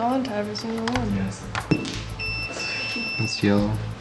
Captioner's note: beeping